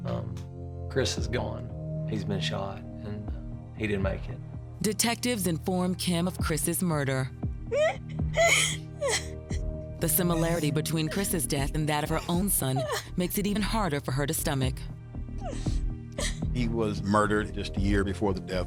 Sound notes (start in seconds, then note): 8.3 crying